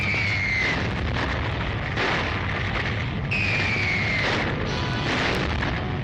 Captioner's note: bombs bursting; missiles whistling